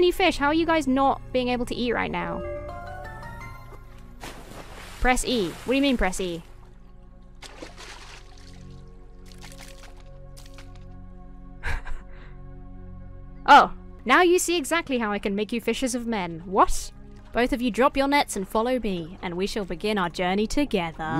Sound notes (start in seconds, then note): 4.1 water splashes; 7.4 water splashing; 11.6 chuckles